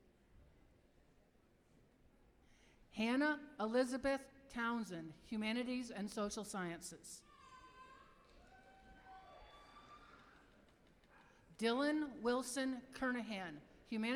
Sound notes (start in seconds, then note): 7.7 applause